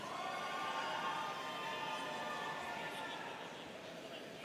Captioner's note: students cheering